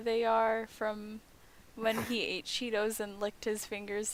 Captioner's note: scoff